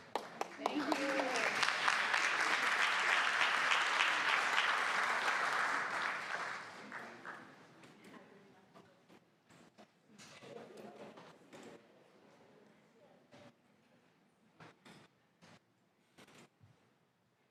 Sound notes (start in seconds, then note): 5.1 applause